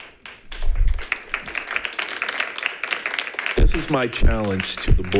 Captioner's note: members clapping